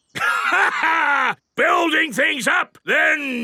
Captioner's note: laughs